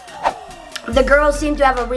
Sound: fast swoosh sound

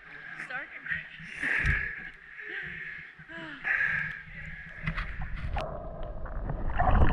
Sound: laughs

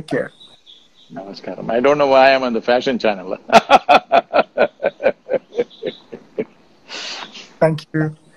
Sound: laughs

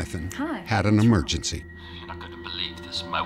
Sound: on phone

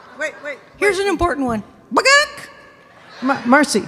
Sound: audience clucking; clucking

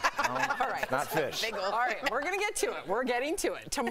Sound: laughter

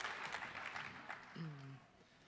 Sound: applause

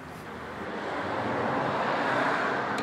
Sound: passing cars

